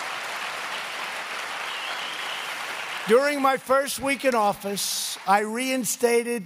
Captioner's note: applause